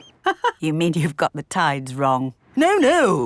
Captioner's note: laughs